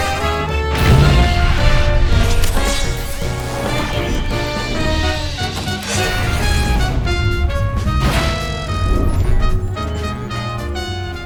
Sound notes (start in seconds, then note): 2.3 robot whirs; 7.7 system beeping